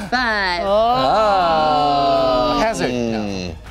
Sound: groaning

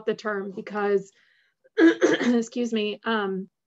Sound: clears throat

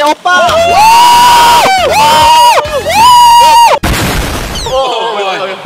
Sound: screaming aggressively

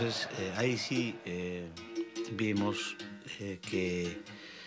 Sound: speaking foreign language

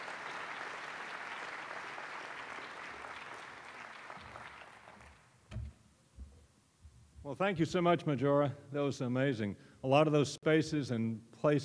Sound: applause

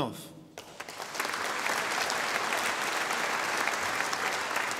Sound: audience applauding

